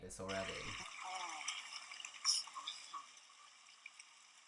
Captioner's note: water rippling